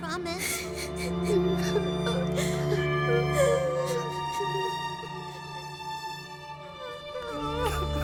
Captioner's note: Kobolds crying